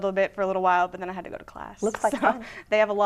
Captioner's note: laughs